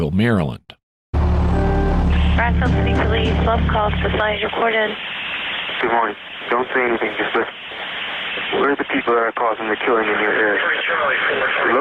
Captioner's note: distorted audio